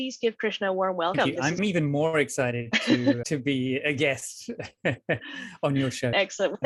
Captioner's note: laughs